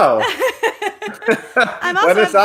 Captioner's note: both laughing